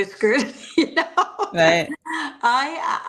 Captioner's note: laughs